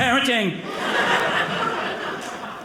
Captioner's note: audience laughing